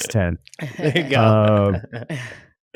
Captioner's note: laughs